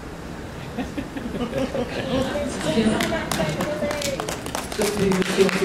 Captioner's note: laughter and applause